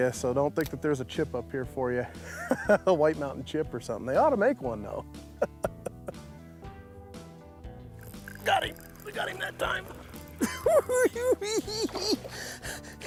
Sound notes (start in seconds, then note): 5.4 laughs; 10.4 giggles